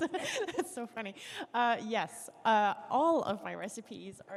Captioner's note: laughter